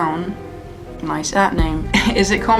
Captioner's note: laughs